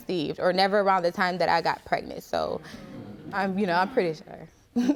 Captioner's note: chuckles